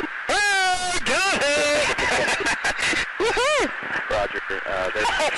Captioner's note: laughter